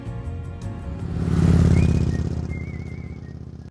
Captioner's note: engine revs